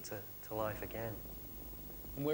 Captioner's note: sound of tyre rolling on road